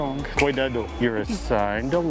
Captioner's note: in Portuguese